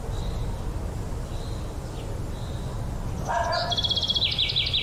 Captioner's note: dog barking